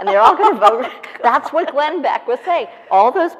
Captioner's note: laughing